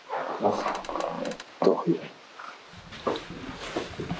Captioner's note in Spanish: crujiendo